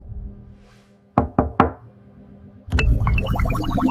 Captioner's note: knock knock